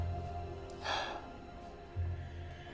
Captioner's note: sighs